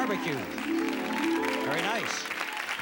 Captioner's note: cheers and applause